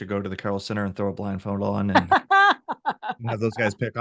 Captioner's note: laughs